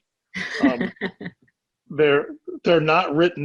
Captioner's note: laughing